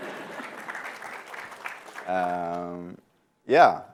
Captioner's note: applause